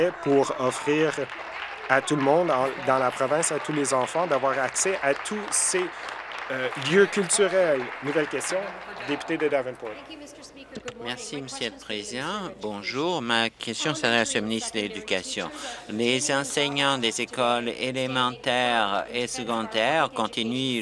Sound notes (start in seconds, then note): 6.0 applause; 9.1 applause